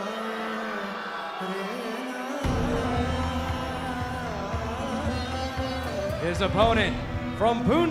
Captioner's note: crowd cheering